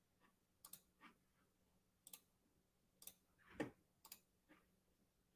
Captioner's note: mouse clicking